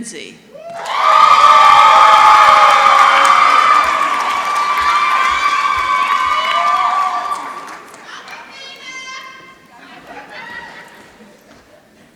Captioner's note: applause